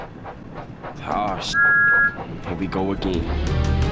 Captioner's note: whistle